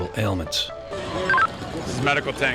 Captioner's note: radio beeps